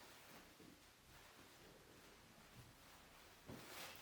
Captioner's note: fabric rustling